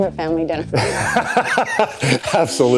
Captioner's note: laughter